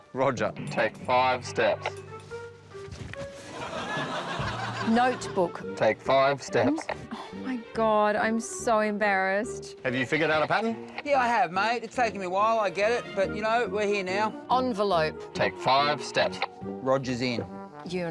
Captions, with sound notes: Roger, take five steps. [LAUGHTER] Notebook. Take five steps. Oh, my God, I'm so embarrassed. Have you figured out a pattern? Yeah, I have, mate. It's taken me a while, I get it, but, you know, we're here now. Envelope. Take five steps. Roger's in.